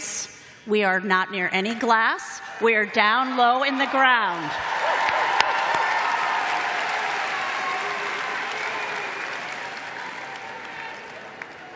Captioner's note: applause